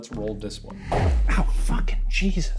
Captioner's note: electronic whooshing; heavy thud echoing